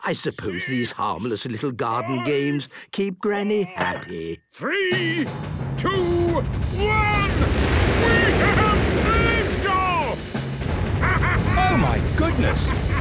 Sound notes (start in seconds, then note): 7.2 rockets igniting